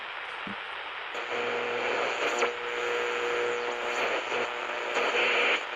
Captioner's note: radio static buzzing